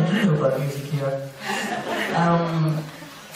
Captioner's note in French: rires